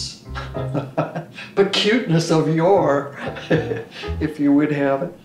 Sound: laughs

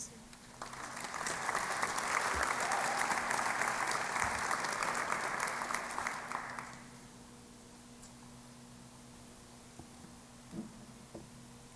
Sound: applause

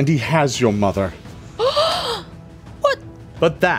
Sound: shocked inhale

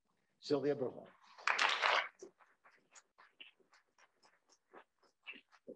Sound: applause

